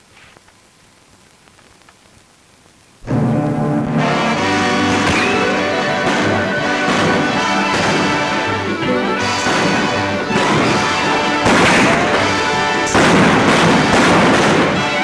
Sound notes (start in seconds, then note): 3.4 dramatic music; 3.4 guns bang